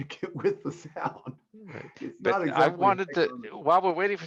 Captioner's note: chuckling